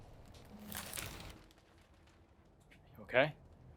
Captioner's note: rattling